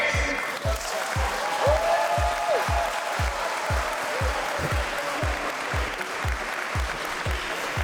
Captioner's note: applause